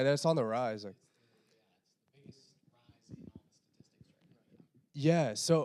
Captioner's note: quietly